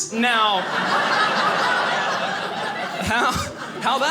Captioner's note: audience laughing